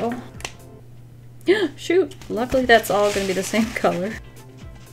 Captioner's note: gasps